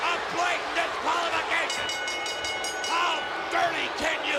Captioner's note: bell rings